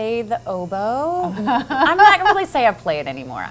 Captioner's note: laughs